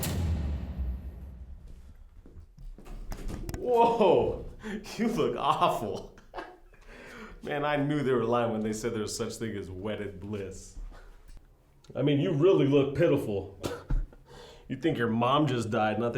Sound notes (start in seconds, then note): 0.0 dramatic music; 1.6 footsteps tapping; 6.5 laughs; 14.0 chuckles